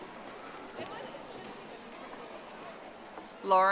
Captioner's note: audience applauding